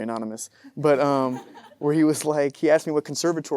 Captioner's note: audience laughing